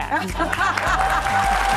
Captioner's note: audience laughs; audience applauds